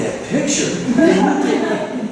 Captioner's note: laughter